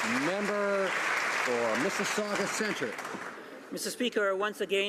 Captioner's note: some Applause